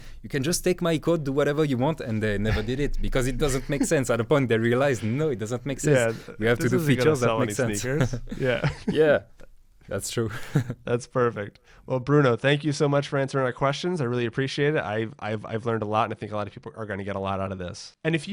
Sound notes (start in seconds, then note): 7.7 both laughing